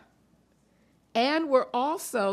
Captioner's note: none